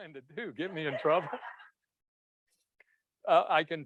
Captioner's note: all laughs